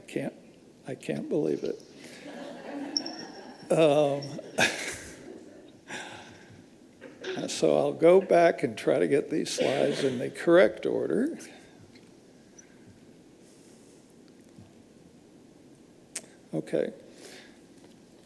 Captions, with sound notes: I can't believe it. (all laughing) So I'll go back and try to get these slides in the correct order. Okay.